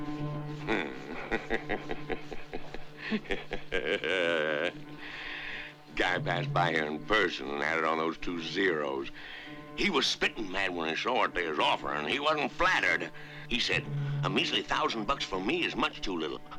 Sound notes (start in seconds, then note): 0.6 chuckling